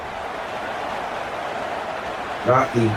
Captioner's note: crowd Noises